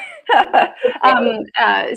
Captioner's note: laughs